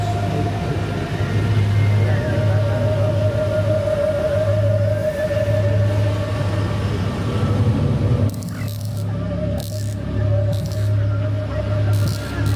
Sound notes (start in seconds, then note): 0.0 warbling mysterious music; 8.2 electricity crackling